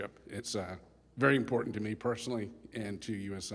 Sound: none

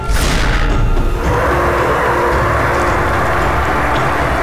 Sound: roaring

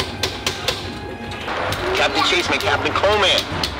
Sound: buttons pounding; radio broadcasting

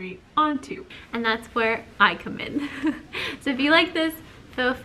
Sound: laughs

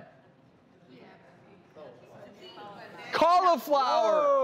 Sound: crowd mumbling

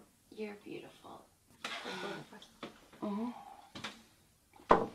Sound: murmuring

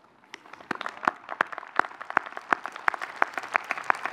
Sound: audience cheering

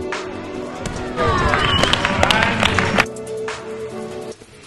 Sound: applauses

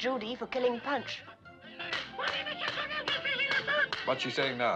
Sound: chattering In French

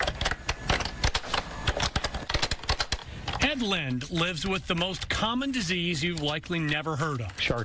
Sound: typing

